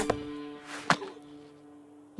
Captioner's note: arrow whistles